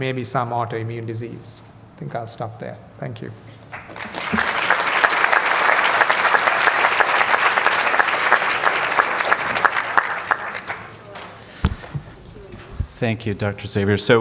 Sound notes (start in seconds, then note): 3.7 applause